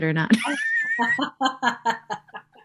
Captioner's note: chuckling